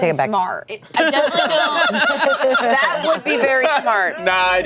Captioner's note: group laughing